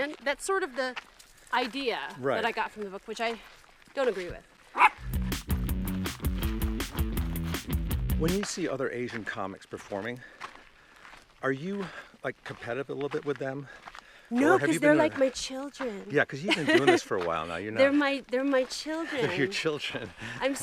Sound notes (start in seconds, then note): 4.7 dog barking; 5.0 upbeat music